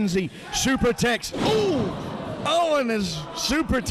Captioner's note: loud thump